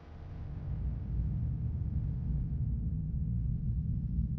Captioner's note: air rumbling